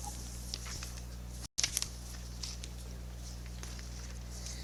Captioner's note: paper rustling